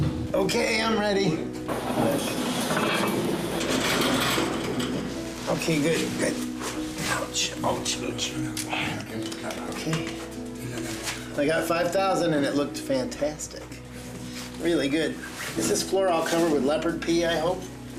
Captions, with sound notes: Okay, I'm ready. (metal scraping) Okay, good, good. Ouch, ouch, ouch. Okay. I got 5,000 and it looked fantastic. Really good. Is this floor all covered with leopard pee, I hope?